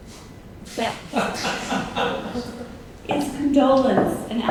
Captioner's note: audience member laughing